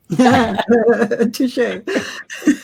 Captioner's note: laughter